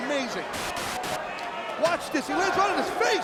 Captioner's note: static crackling